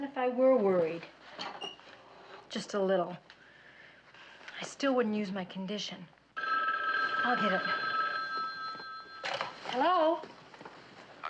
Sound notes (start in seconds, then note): 6.4 Telefon çalıyor